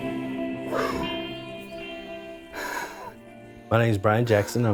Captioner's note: repeatedly blows hard into bottle